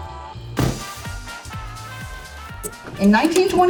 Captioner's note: lively jazz music; book thuds